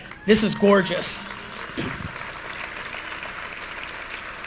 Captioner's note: applause